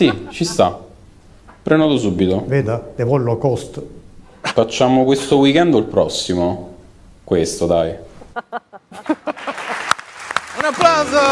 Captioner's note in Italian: Risate; Applauso